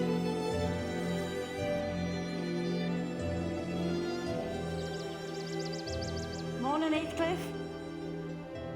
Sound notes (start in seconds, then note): 3.9 birds singing